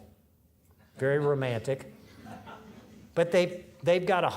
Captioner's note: audience laughing